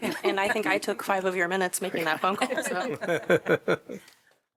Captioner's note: laughter